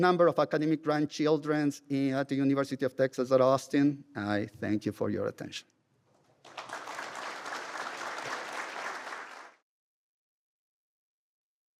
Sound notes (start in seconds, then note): 6.3 applause